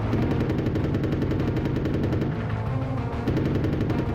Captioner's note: suspenseful music; guns firing